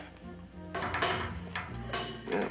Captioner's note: pipes rattling